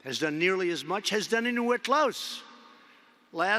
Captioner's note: none